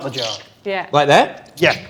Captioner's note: squeaks